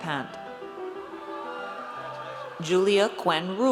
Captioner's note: audience cheers